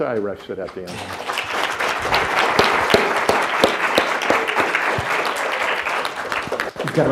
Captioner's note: audience claps